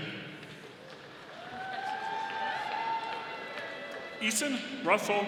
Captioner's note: audience applauding